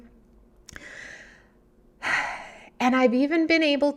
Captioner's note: gasps